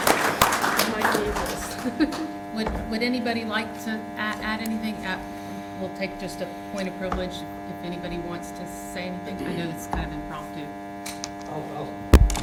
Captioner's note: applause